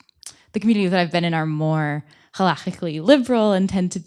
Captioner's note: hebrew